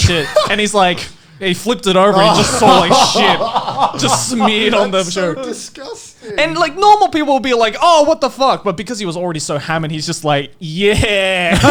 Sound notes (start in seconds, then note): 2.2 laughing